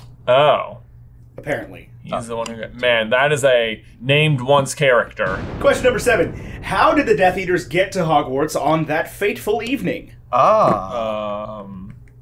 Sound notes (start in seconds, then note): 5.2 lightning crashing